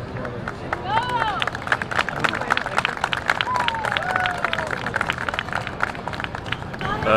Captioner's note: applause